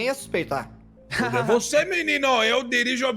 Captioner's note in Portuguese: Risos